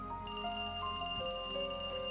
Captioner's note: phone ringing